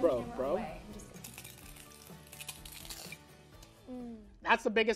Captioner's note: crunching